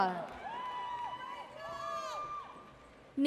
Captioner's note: audience cheers